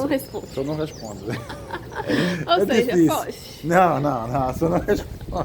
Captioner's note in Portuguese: risadas